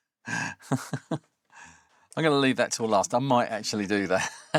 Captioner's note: laughs